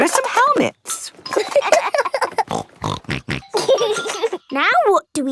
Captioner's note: laughing; snorting